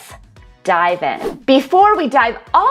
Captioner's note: whoosh